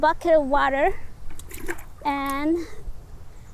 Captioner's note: water splashes